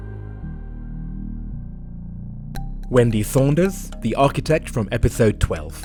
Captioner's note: voiceover